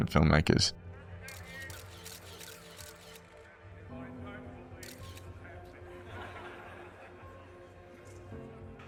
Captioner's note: laughter